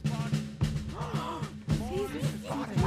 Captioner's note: gasping